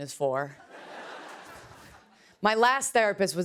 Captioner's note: laughter